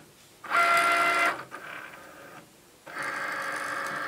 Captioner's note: whirring